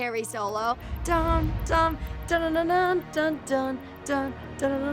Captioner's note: vocalizes dramatic musical beat